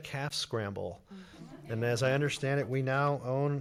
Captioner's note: laughing